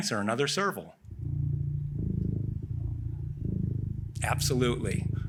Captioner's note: cat purring